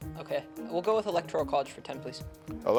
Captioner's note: teammates whispering